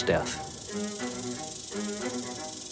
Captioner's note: rattlesnake rattles